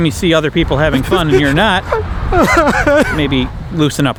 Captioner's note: cries